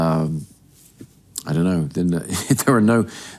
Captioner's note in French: rires